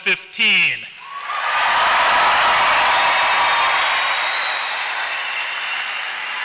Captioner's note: screams and applause